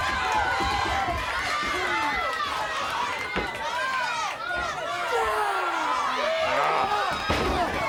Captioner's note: crowd cheering